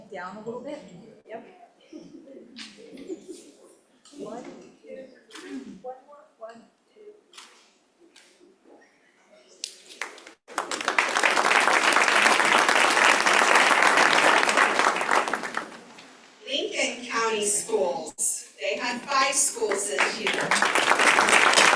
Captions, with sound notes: down a little bit yep [Applause] Lincoln County Schools. They had five schools this year.